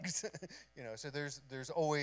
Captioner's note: chuckles